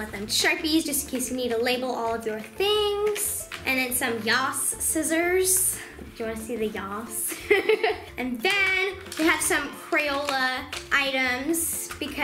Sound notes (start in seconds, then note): 7.3 laughs